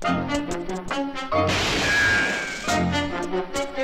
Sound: gun fires; tense music

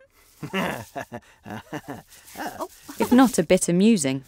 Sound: Boaz laughing

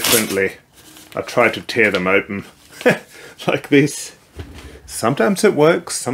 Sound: chuckles

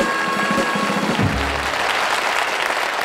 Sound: audience applauds

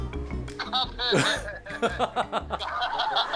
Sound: laughing awkwardly

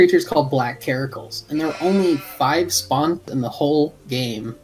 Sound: Karakul baahs

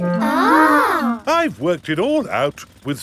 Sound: children gasp in awe

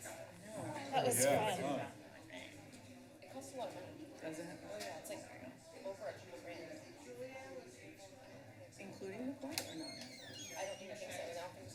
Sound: background conversations

